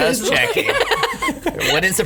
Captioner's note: laughs